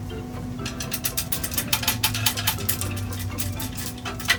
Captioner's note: wood clanking